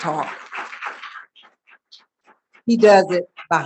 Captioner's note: audience applauding